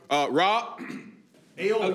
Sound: clears throat

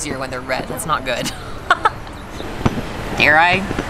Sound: laughs

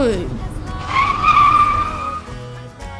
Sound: screech!

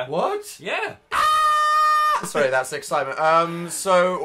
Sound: screaming

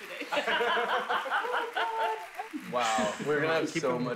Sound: laughter

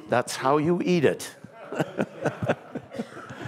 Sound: laughter

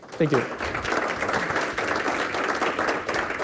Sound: clapping

